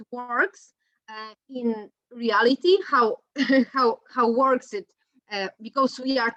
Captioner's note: laughs